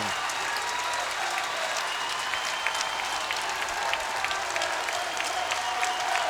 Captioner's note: crowd cheering and clapping